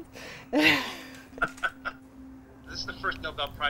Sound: laugh

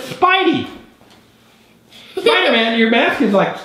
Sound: girl laughs

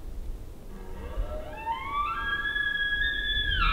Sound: caller bugling

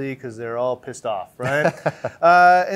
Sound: guy In Jacket Chuckles

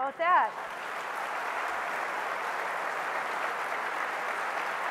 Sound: applause

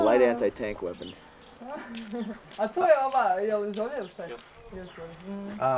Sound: speaking in Bosnian

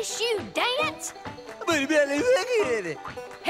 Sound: speaking gibberish

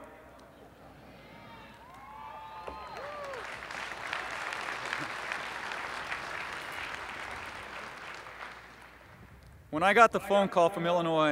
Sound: cheering and applause

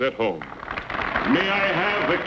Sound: audience applauds

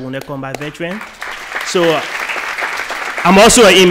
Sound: applause

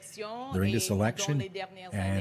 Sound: speaking French

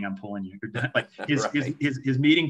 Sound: laughs

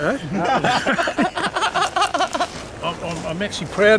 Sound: laughs

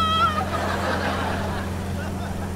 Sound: laughing

